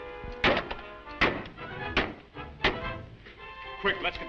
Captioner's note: metal thudding